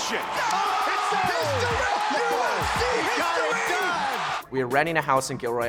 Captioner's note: audience cheers and applauds